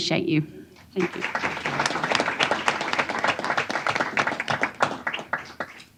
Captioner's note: applause